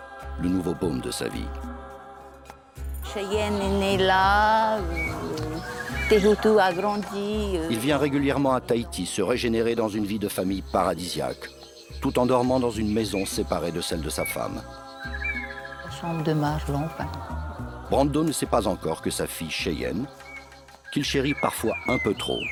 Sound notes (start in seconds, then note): 3.1 French spoken audio; 15.8 Fench spoken audio